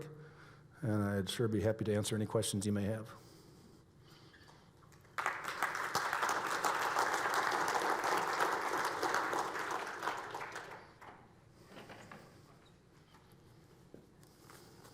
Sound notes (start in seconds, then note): 5.0 audience applauds